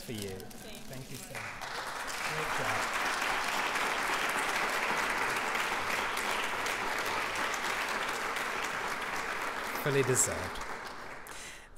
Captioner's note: applause